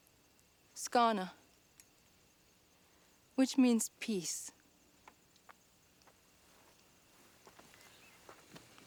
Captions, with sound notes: (speaks in Mohawk) which means peace.